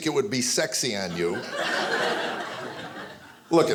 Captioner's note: audience laughing